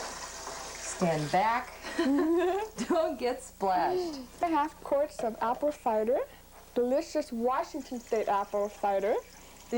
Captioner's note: laughter